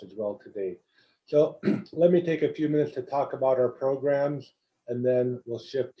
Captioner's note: cough